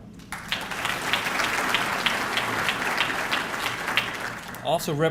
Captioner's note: audience clapping